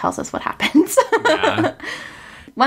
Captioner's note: laughs